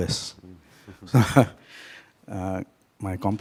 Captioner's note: laughing